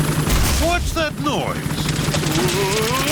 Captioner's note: whirring; thuds